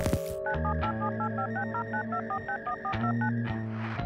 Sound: dial tone

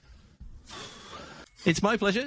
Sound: exhales sharply

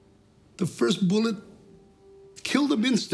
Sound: voice breaking

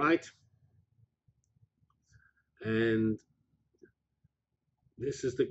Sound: pause

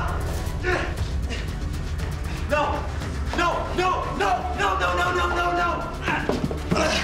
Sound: grunting

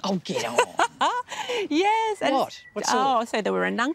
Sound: laughs

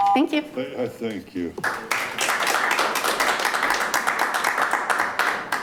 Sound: audience applauding

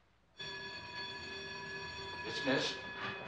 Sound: bell ringing

